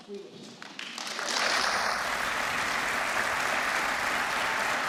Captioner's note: applause